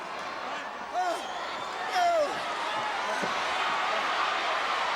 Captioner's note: audience cheering